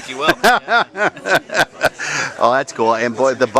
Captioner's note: laughter